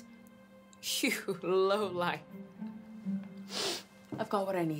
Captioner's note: sniffs